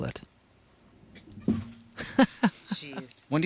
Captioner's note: laughs